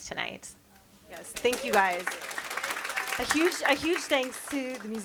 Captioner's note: audience applauds